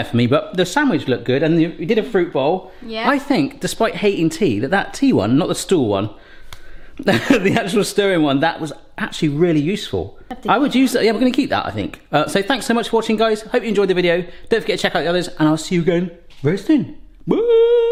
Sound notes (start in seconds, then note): 6.4 head slapping